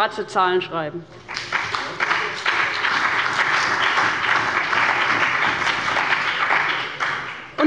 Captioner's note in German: Beifall bei dem BÜNDNIS 90/DIE GRÜNEN und der CDU